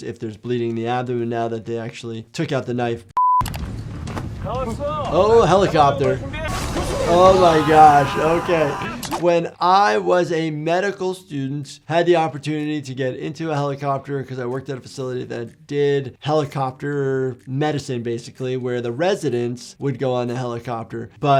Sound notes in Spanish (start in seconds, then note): 3.2 pitido electrónico; 4.6 hablando idioma extranjero